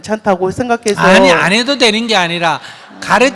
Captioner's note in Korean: 청중 웃음